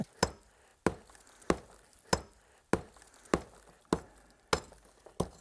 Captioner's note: hammering on rock and metal